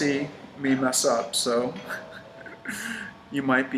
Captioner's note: snickers